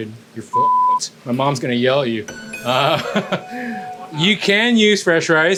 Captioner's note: laughs